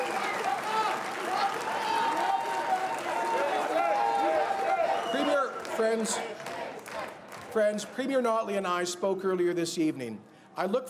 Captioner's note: cheers and Applause